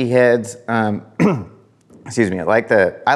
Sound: clears throat

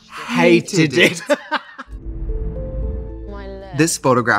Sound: Katya laughs

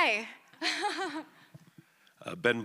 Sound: laughs

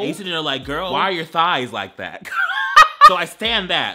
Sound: laughing

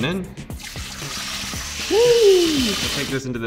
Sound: water pouring

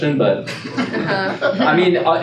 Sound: laughing

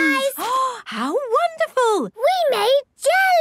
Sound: gasps

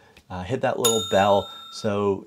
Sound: bell dings

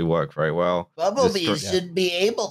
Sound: Bumblebee voice

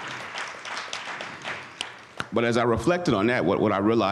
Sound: audience applauds

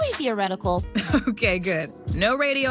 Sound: chuckles

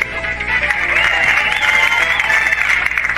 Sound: audience cheering, clapping

